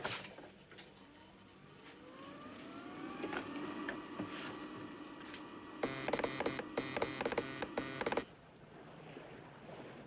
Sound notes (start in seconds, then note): 5.8 Clique, Zumbido